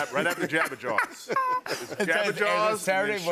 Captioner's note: laughter